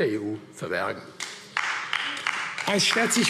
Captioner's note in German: Beifall AfD